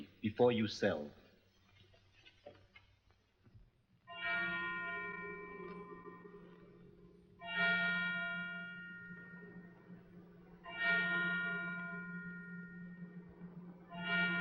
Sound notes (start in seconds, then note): 4.1 bell tolling